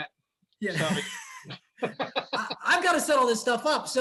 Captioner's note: both laughing